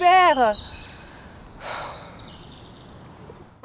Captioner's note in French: soupirs